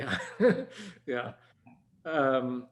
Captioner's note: chuckles